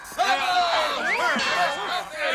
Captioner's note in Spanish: gritan